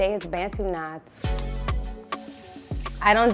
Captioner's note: bright music; water running